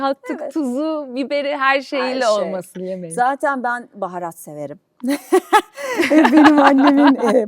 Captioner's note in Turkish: kahkaha